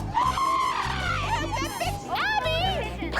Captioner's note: screams